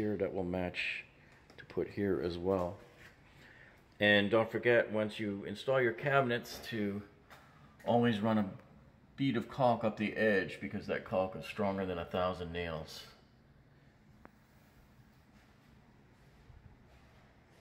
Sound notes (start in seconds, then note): none